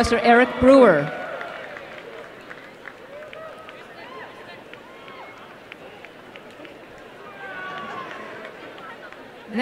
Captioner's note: applause